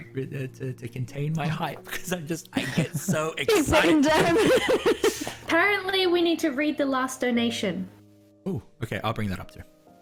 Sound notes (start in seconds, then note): 2.5 laughs